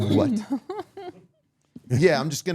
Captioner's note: podcaster laughing